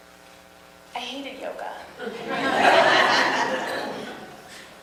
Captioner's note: audience laughs